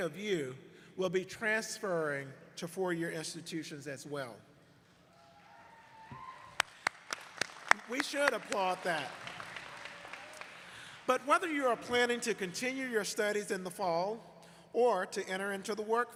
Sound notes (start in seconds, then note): 6.8 cheers and applause